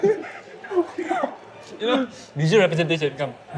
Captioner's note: both gasping for air